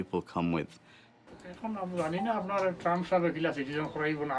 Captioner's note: non-english speech